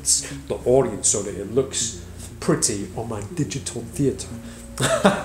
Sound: laughs

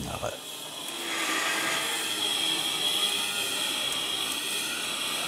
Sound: various machine noises in the background

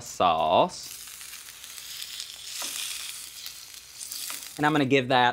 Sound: sizzling

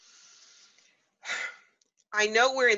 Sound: sighs

